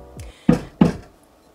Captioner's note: banging